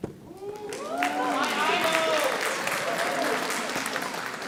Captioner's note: audience applauding